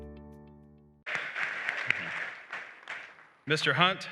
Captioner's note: applause